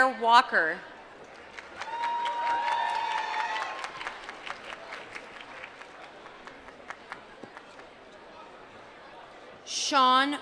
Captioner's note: applause